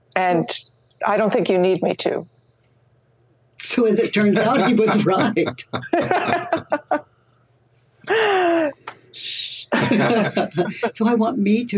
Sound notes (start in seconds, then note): 4.6 everyone laughs; 9.1 shushes; 9.7 everyone laughs